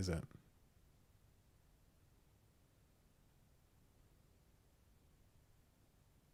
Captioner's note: silence